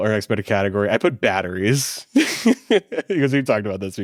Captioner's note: laughs